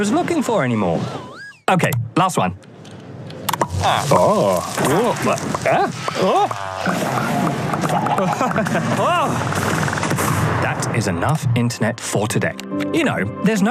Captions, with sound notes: I don't even know what I was looking for anymore. Okay. Last one. [Grunting] Whoa. That is enough internet for today.